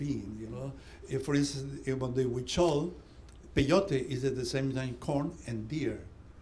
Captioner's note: non-english